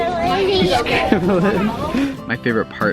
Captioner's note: laughs